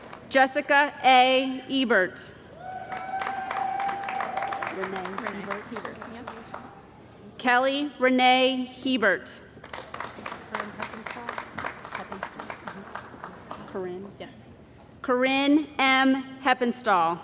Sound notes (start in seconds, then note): 2.6 cheering & Applause; 9.6 applause